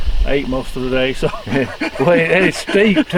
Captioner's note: laughs